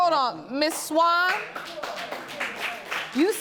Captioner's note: audience applauding